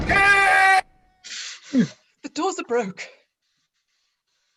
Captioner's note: shouts from outside